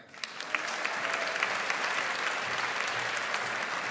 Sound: audience applauds

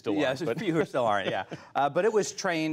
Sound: laughter

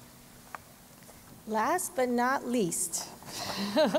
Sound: laughs

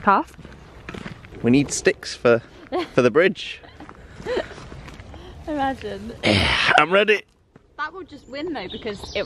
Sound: grunts

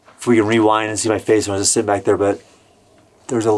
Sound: none

